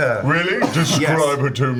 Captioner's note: all laugh